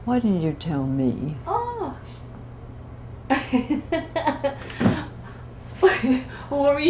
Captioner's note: laughter